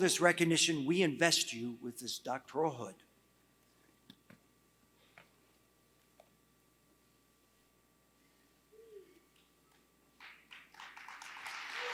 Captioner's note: applause